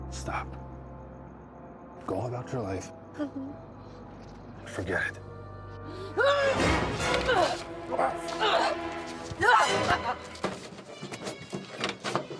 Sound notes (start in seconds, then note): 3.5 Eleanor whimpers; 6.3 Eleanor growls; 6.3 dramatic music; 9.8 grunts